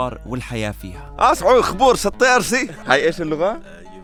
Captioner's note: speaking the mountain language